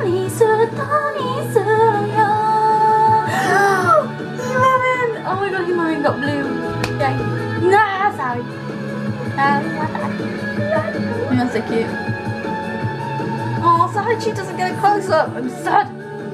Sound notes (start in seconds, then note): 3.3 big gaspeth